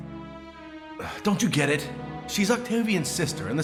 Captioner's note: sighs